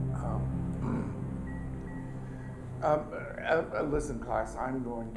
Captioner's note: clears throat